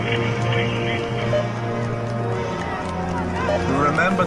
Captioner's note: radio beeping